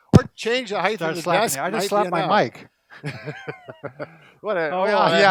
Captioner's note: laughs